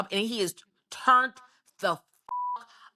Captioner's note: beep